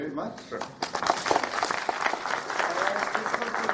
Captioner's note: applause